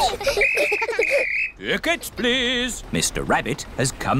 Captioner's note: blows whistle